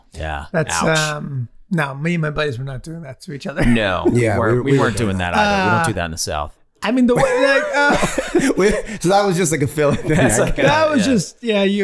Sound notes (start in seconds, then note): 3.6 Charlie laughing; 7.1 all laughing